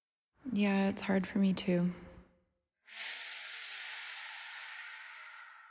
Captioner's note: sigh